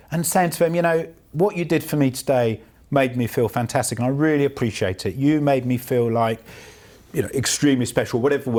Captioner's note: none